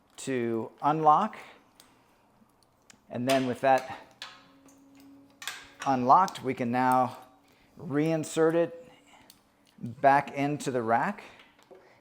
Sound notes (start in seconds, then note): 5.3 cable clinking